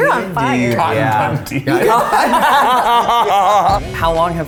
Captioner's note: all laughing